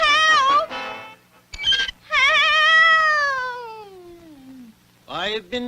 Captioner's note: Underdog turns off the Record Player & the record player stops